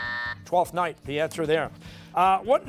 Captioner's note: buzzer